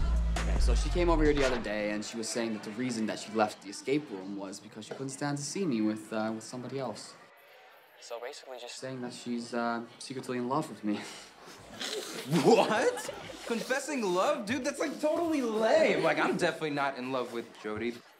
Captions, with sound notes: Okay, so she came over here the other day, and she was saying that the reason that she left the escape room was because she couldn't stand to see me with, uh, somebody else. So, basically just saying that she's, uh, secretly in love with me. -[laughing] -What? Confessing love? Dude, that's, like, totally lame. Like, I'm definitely not in love with Jodi.